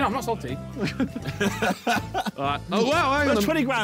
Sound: men laughing

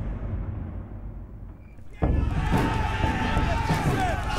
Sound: shouting

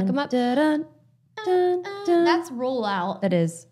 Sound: both humming

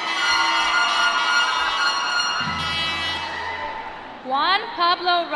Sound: applause

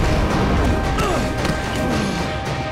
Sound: grunting

